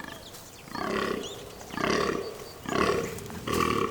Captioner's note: deer grunting